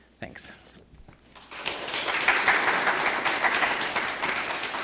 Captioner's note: applause